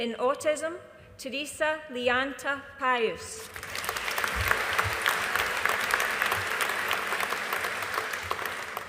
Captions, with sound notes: In Autism, Theressa Liyanta Pius. (AUDIENCE APPLAUDING)